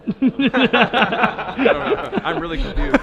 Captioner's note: laughing